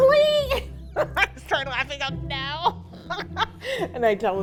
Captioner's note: laughs